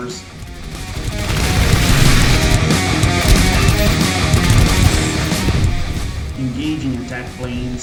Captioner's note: aircraft Engines ,Gunfire, Flying Sounds